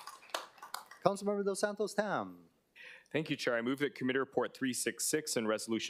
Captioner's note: applause